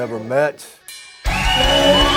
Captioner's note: bell ringing; rock music playing; crowd cheering